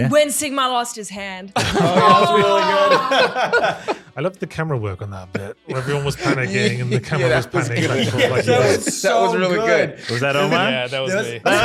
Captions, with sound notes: When Sigma lost his hand. (all laughing) - I loved the camera work on that bit. - Everyone was panicking and the camera was panicking. - That was really good. - Was that Omar? - Yeah, that was me.